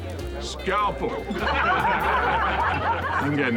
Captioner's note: all laugh